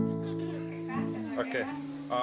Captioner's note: people laughing